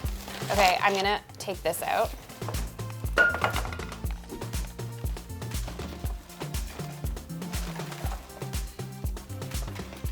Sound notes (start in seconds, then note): 0.0 bag crunching; 3.2 trash banging on floor; 6.5 upbeat music